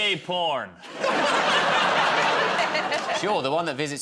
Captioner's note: laughter